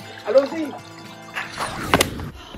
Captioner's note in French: Man claps twice